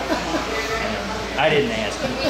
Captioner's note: laughing